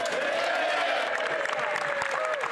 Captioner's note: applause